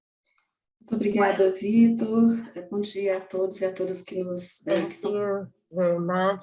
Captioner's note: speaking in foreign language